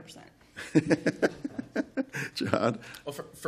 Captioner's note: laughter